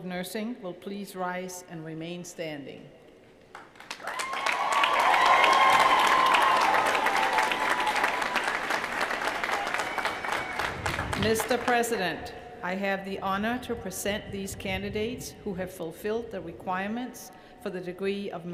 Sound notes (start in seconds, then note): 10.0 cheers & applause